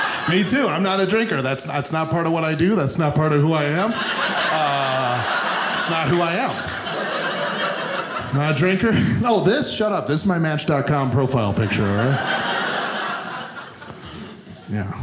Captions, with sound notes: - Me too, I'm not a drinker. That's not part of what I do, that's not part of who I am. (audience laughing) That's not who I am. Not a drinker. Oh this? Shut up, it's my Match.com profile picture, all right?